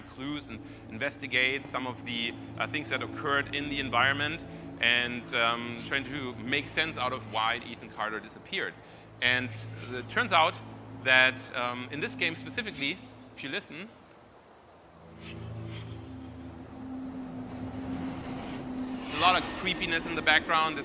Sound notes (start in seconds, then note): 8.4 knife sharpening; 15.2 knife sharpening; 17.7 wind whooshing